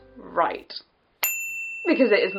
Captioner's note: ding